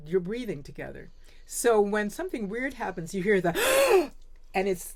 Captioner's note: gasp